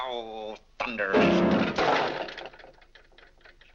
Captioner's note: mashes piano keys; object clatters